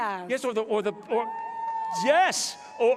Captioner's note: cheering